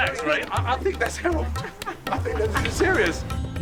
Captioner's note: laughs